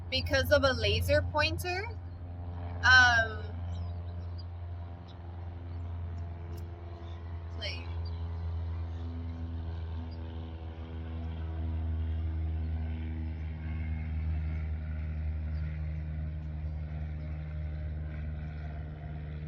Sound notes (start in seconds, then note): 3.4 plane whirring